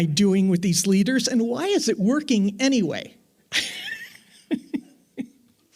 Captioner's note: laughs